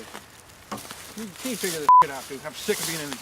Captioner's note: beep